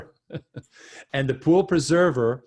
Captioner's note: chuckles